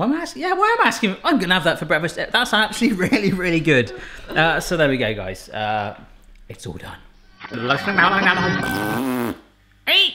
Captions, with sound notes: You don't, yeah. Why am I asking you? I'm gonna have that for breakfast. That's actually really really good. So there we go guys. It's all done. (fast forwarding noise) (spitting sound)